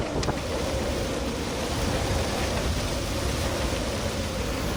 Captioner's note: rain pattering